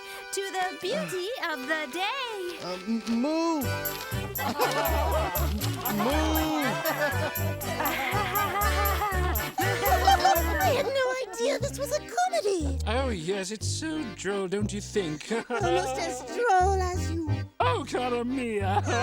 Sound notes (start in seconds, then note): 4.6 audience laughs; 8.0 Bambolona laughs; 15.0 laughs